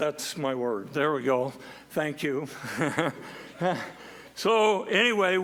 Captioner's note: laughs